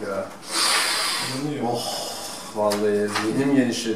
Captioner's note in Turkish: tıkalı burun nefesi